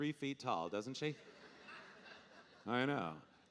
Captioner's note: audience laughing